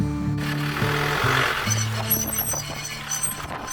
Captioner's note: truck roaring; brakes squealing